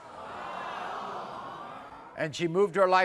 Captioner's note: audience awwing